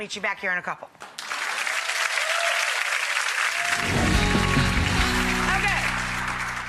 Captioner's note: audience cheers and applauds